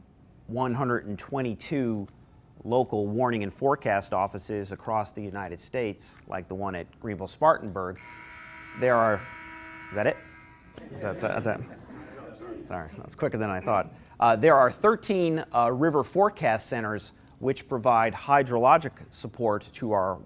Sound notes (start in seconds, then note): 7.9 alarm; 10.7 laughter